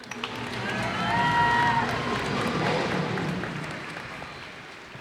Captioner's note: cheers and applause